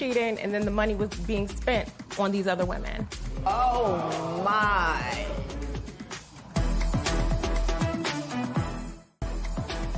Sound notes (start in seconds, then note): 3.8 spectators exclaim; 6.8 suspenseful music plays; 9.6 suspenseful music plays